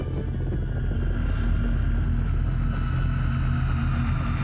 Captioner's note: jet engines roaring